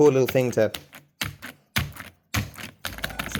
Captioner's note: mashing Button Sound Intensifies